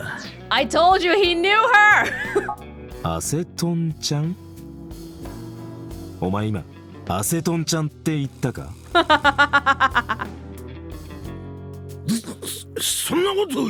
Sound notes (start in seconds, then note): 2.0 chuckles; 8.9 chuckles